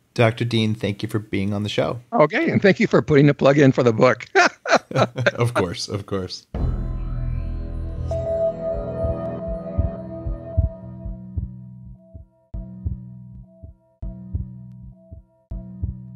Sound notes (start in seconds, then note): 4.2 laughs; 8.0 chiming music